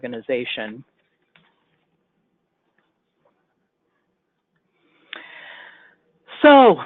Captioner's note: silence